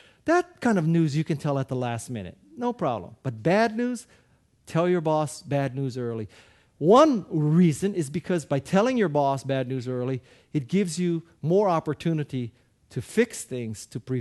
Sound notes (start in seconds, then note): none